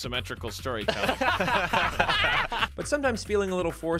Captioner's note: laughing